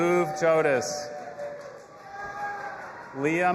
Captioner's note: audience applauding and cheering